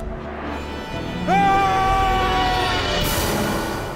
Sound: screaming

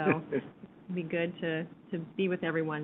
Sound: man laughing

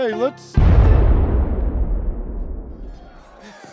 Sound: explosion rumbles

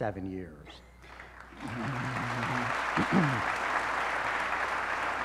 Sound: applause

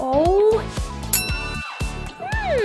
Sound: ding!

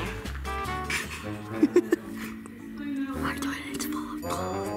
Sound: laughing

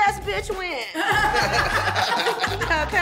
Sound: laughter

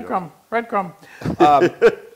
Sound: laugh

